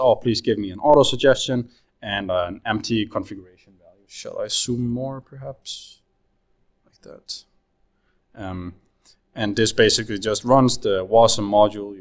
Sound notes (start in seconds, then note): none